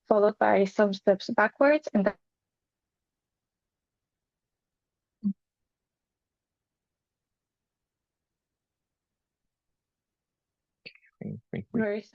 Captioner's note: sounds cuts momentarily